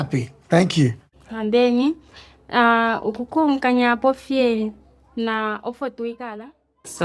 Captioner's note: speaker speaking in foreign language